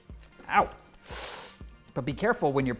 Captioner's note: inhales